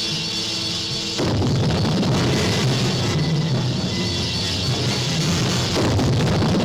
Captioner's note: intense music; explosions rumbling